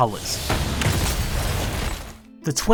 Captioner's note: boom